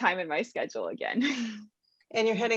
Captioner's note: laugh